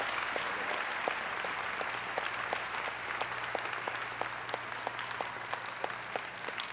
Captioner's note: applause